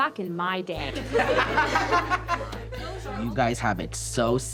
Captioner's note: panelists laughing